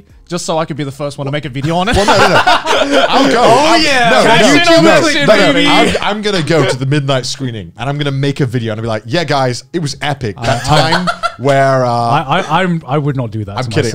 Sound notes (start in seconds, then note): 1.7 laughing; 2.7 yelling; 10.4 laughing